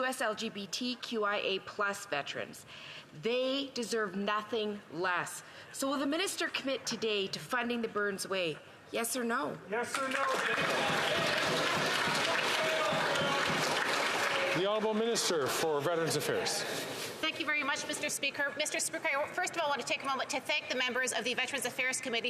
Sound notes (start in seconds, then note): 16.2 some Applause